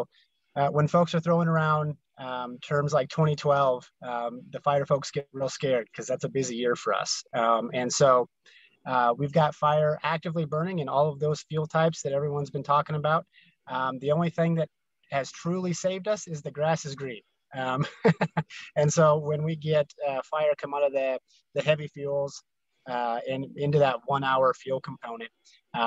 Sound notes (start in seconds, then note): 17.7 laughter